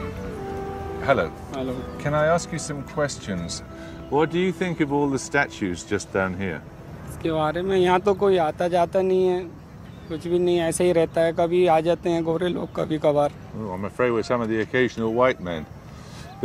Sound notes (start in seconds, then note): 7.2 speaking hindi